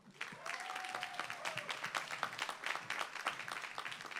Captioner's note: applause